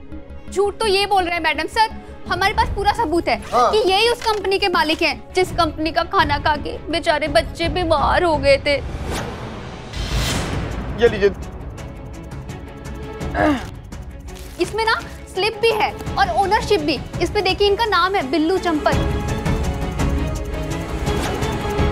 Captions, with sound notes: He's the one lying, maddam sir. We have proof that he is the owner of the company. The company whose meals made the poor children sick. [dramatic music] Here. [clears throat] This has the slip and the ownership. His name is there, Billu Champat. [tense music]